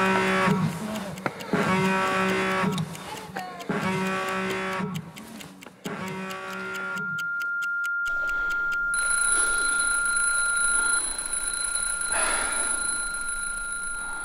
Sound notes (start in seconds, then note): 0.0 klaxon blares; 8.0 tinnitus rings; 9.0 alarm rings; 12.0 sigh of relief